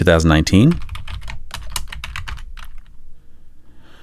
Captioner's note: typing